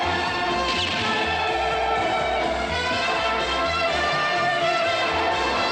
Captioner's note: tires screeching